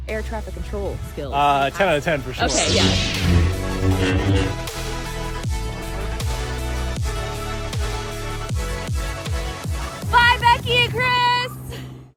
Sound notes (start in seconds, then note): 2.4 lightsaber hums; 5.0 upbeat electronic music